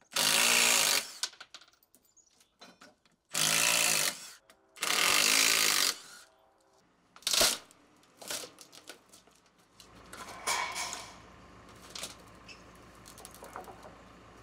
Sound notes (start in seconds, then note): 0.2 drill whirring; 4.8 drill whirring; 7.2 wood crunches